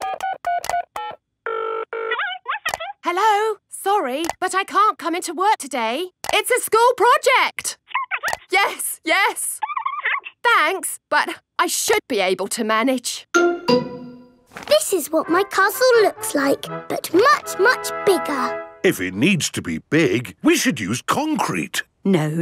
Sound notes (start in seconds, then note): 0.0 dials phone; 2.0 on phone